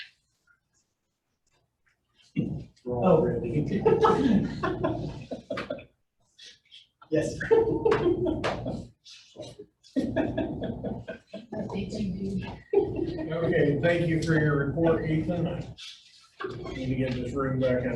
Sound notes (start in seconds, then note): 11.7 laughing